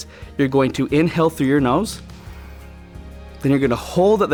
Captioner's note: inhales deeply